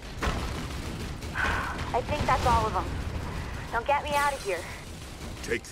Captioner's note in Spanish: Suspiro